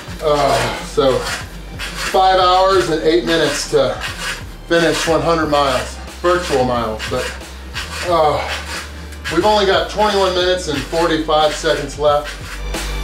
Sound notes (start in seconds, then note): 8.4 groans; 12.8 pop music